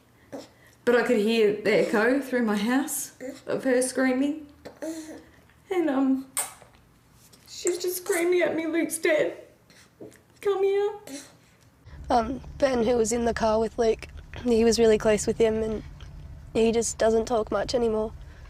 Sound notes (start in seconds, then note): 4.7 voice breaking